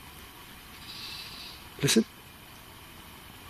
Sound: trilling

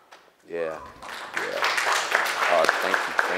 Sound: applause

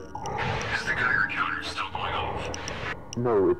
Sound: over Radio

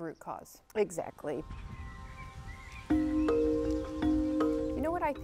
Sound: birds singing

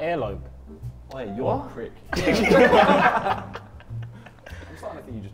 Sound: Sidemen laugh

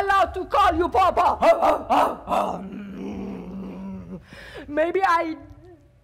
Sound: Sharik loudly barking

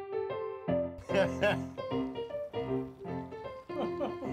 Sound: chuckling

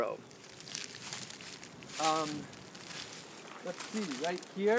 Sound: rustling sounds

